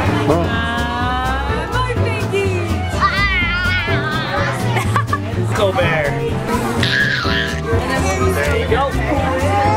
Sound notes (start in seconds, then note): 2.9 babbles; 6.8 coos